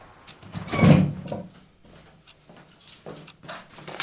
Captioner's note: door clicks shut